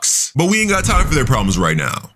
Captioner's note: smoke whooshing